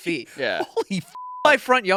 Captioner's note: beep